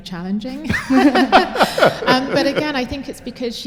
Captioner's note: laughter